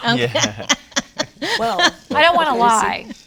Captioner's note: laughs